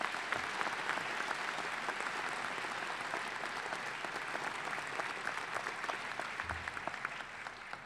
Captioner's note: applause